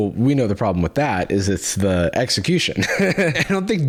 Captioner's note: laughs